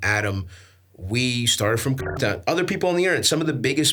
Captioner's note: beeps